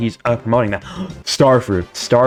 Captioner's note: gasps for oxygen